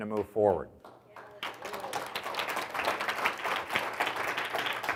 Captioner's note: audience applauds